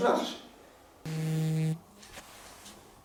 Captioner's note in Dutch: telefoon trilt